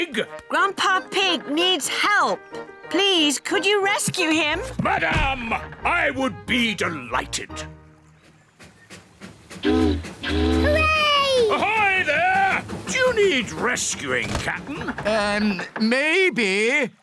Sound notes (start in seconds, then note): 9.6 chugging; 9.6 boat horn honking